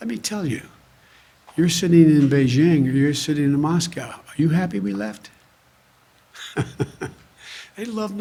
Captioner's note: laughs